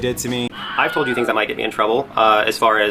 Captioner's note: scream sound